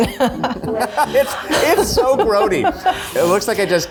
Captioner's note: laughs